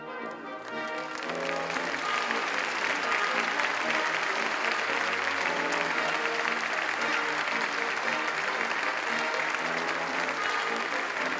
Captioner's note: applause